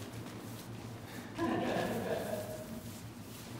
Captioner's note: laughter